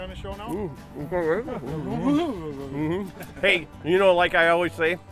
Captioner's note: positive mumbling